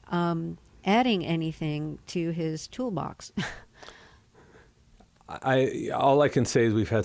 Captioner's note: laughter